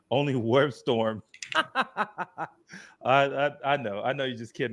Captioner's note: laughs